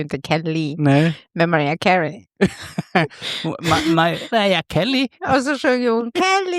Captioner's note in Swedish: skratt